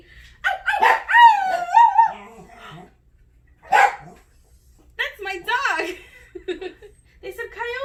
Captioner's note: imitates coyote howl; dog barks in background, gasps